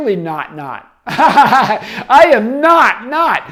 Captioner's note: laughing